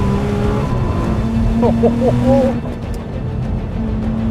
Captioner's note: chuckles